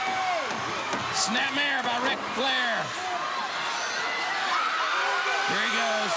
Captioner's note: crowd clamoring